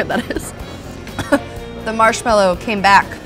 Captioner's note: coughing